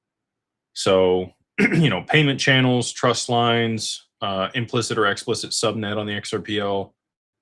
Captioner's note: clears throat